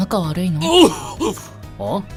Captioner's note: coughs